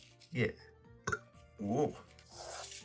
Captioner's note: burp